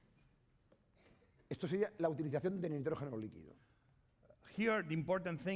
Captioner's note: speaking spanish